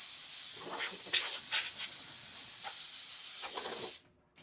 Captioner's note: nozzle spraying